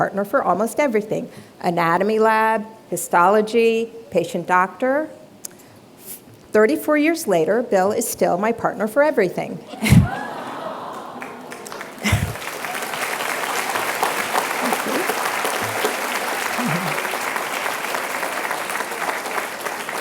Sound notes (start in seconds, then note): 10.0 audience exclaims; 11.9 applause